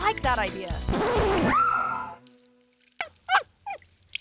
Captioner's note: pee splatters; record scratches; talent yells; dog whimpers